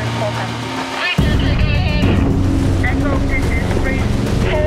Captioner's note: radio mumble orders